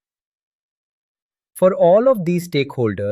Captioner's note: pause